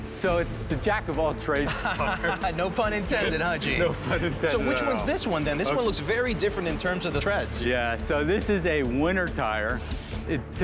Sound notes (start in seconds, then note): 1.6 laughs